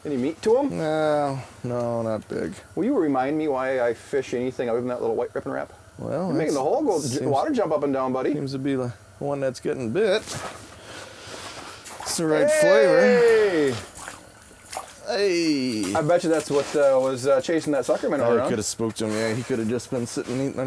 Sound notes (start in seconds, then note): 12.2 cheering; 15.2 voiceover